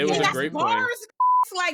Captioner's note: beep